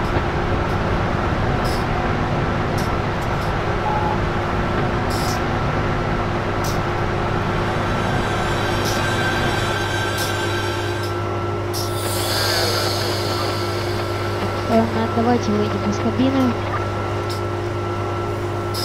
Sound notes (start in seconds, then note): 14.4 radio sounds